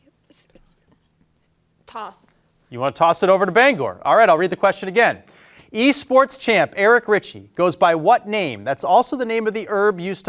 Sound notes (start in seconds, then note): 2.0 group whispering